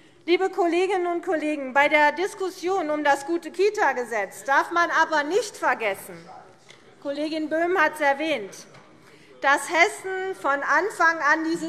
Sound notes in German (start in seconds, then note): none